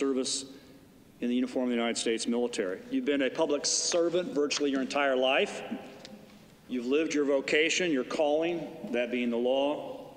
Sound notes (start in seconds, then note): none